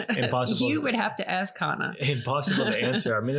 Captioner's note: laughing